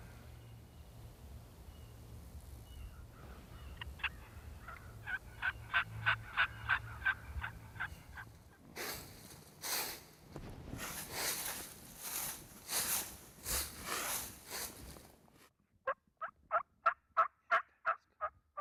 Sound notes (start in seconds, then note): 8.1 rustling; 16.1 turkey calls